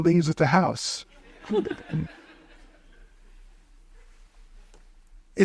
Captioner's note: audience chuckles